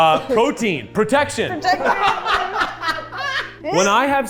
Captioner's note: laughs